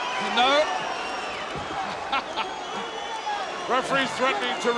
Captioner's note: chuckles